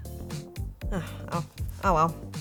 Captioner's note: sighs